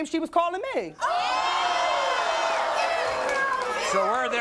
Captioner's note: audience cheers